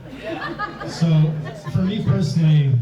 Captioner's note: audience laughs